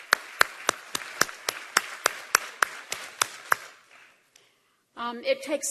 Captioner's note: applause